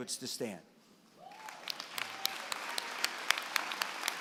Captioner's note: applause